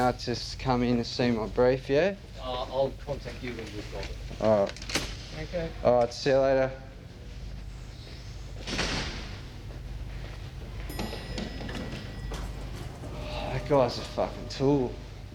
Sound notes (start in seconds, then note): 8.5 door shuts; 10.8 elevator bell dings